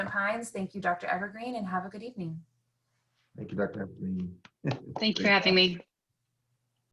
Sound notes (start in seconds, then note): 4.6 chuckles